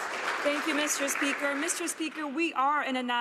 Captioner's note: some Applause